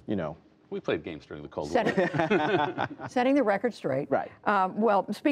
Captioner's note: laughter